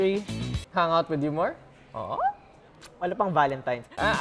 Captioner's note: squeals